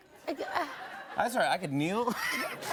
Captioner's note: laughter